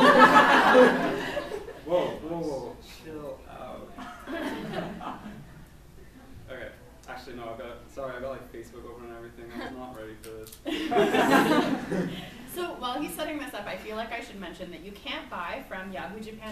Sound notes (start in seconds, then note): 0.0 laughs; 5.1 laughs; 10.7 laughs